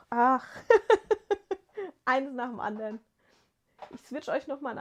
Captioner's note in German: gelächter